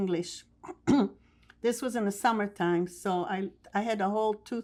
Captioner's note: clears throat